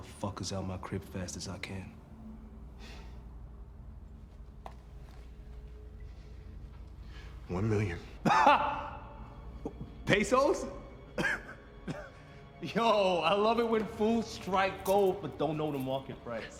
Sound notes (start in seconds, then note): 8.2 laughs; 10.8 chuckles